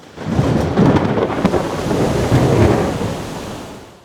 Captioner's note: thunder